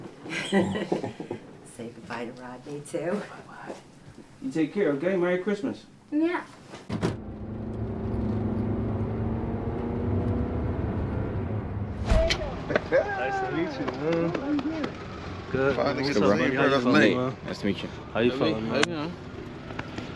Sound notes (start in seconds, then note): 6.9 car doors shut; 7.0 van accelerating; 11.8 whoosh